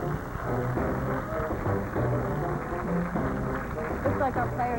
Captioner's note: dramatic music; applause